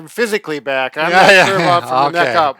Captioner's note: laughs